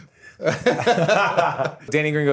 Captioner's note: all laugh